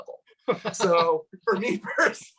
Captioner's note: laughs